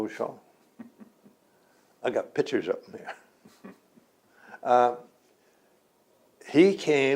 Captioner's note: laughs